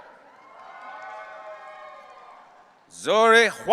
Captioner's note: audience cheering